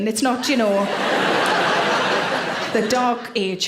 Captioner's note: audience laughing